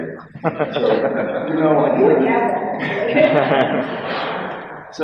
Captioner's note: people laugh